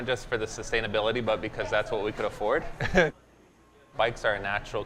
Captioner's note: chuckling